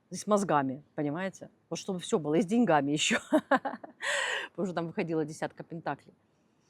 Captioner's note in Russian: смех